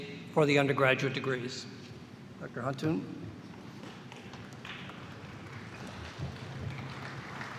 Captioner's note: applause